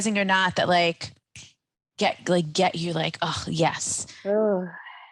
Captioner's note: snaps fingers